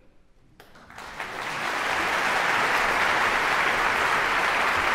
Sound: audience applause

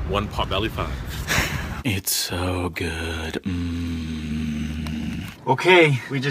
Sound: laughs; in a low gravelly voice

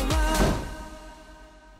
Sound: boom!

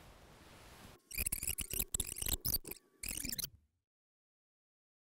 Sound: tape squeaking

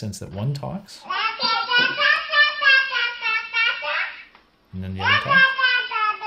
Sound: baby speaks gibberish

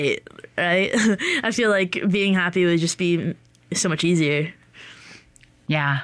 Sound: chuckles

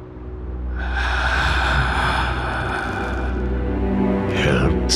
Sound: ominous breathing

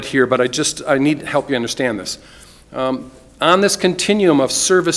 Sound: none

